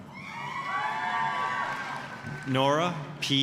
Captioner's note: applause, cheering